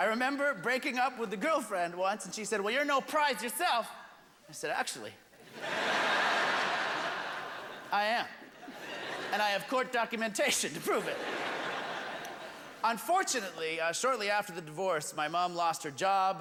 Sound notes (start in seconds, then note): 5.4 laughter